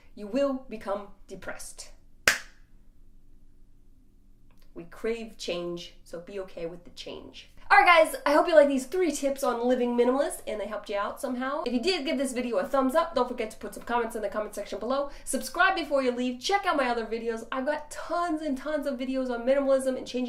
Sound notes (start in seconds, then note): 2.2 claps